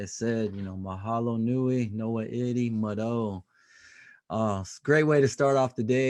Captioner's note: speaking native language